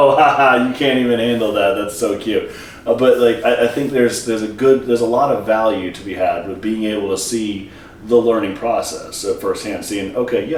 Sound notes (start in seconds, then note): none